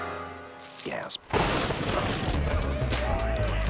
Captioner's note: thunder crashes; men hooting